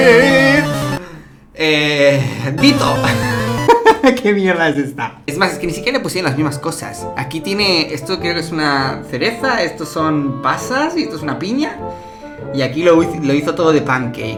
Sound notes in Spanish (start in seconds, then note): 3.0 Risas